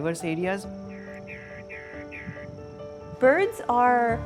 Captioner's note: bird call